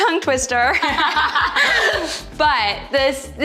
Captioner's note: laughing